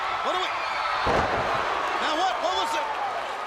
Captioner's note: crowd cheering